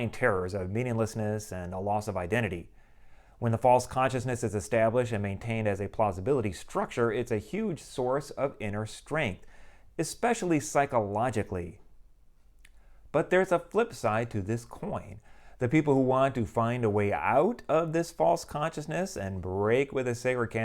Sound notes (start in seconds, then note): none